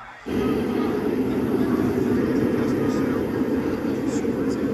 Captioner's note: wind blowing